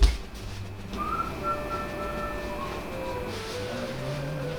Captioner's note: excited whistling noise